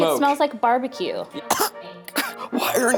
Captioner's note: Zach coughs